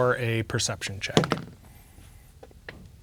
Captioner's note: dice rolling